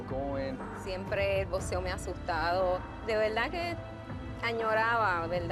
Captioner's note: speaking Spanish